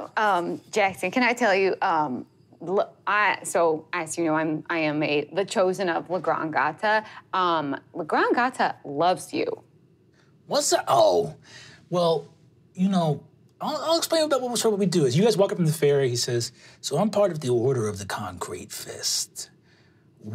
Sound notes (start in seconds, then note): none